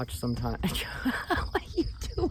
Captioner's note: laughing